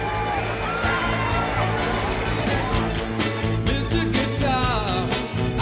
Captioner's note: crowd cheers